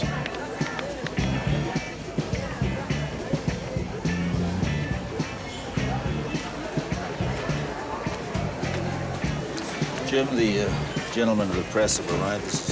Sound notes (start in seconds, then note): 0.2 funk music; 4.5 casual conversation